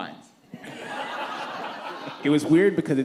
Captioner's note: laughter